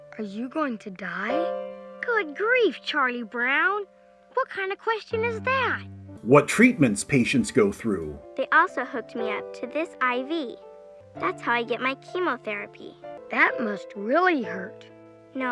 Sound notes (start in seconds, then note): none